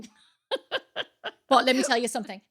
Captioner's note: laughing